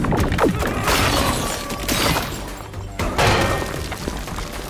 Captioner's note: shouts; shattering; fire crackles